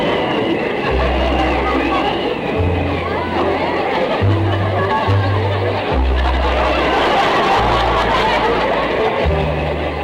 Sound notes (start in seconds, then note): 6.4 audience laughter